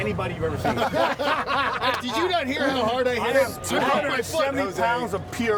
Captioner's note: laughter